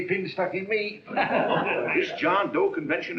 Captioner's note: laughing